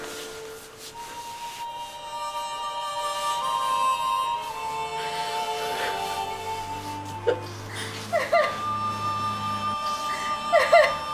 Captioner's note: crying